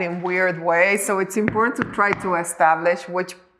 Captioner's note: knocking on wall